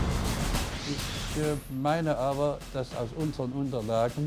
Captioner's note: speaking german